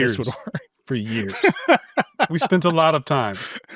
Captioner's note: laughs